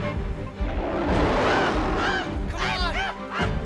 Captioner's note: Stink screams and whimpers; Scarface roars; Stink yells